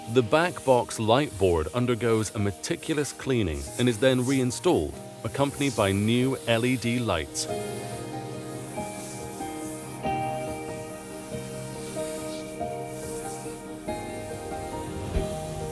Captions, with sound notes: The backbox light board undergoes a meticulous cleaning and is then reinstalled, accompanied by new LED lights. (canister hissing) (gentle music continues)